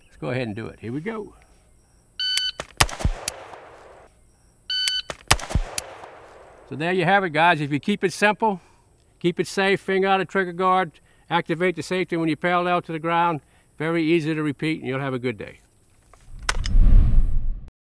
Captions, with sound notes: Let's go ahead and do it. Here we go. (timer beeps) (rifle fires) (timer beeps) (rifle fires) So there you have it, guys. If you keep it simple, keep it safe, finger out a trigger guard. Activate the safety when you're parallel to the ground. Very easy to repeat, and you'll have a good day.